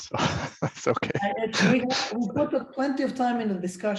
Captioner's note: laughter